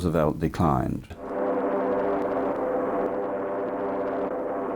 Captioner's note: planes buzzing